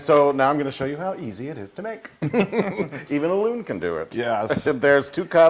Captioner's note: laugh